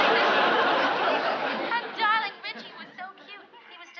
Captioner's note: on phone